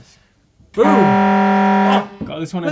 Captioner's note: buzzer